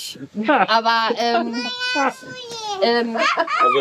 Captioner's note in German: Lachen, Brabbeln